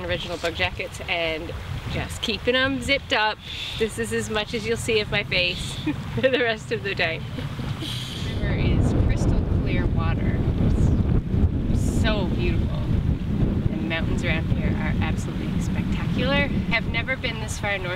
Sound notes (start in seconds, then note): 7.3 laughing; 9.9 wind whooshing